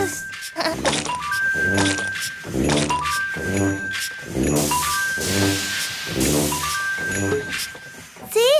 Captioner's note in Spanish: Sonido de maquina; Risas